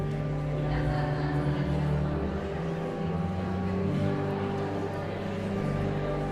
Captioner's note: enigmatic organ music; audience chattering continues